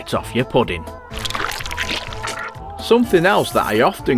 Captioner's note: sound of baby being sick